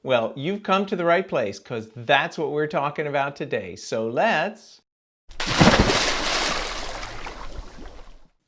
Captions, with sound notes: Well, you've come to the right place 'cause that's what we're talking about today. So let's (water splashing)